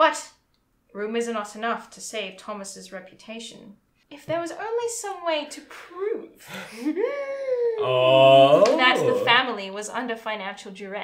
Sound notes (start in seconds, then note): 7.8 gasps